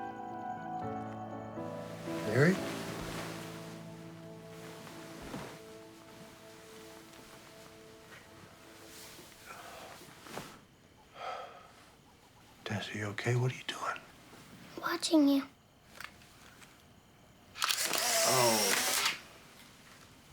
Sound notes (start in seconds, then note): 9.3 exhales; 9.4 sigh